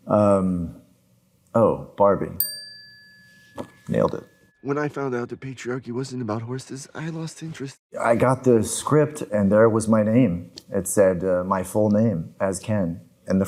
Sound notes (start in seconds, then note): 2.4 bell dings